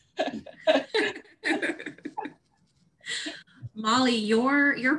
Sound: all laughing

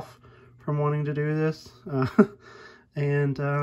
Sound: laugh

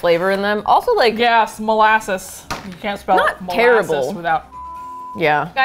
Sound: with disgust

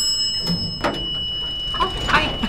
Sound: elevator bell; door opens

